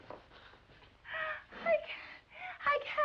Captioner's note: gasping